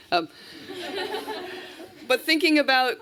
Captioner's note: laughter